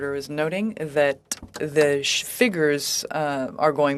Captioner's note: speaking in French